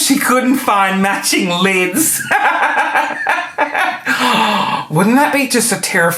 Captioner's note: laughing